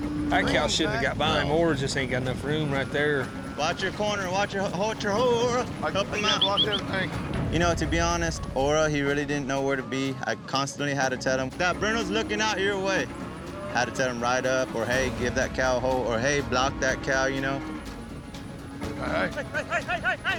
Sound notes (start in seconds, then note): 5.8 whistling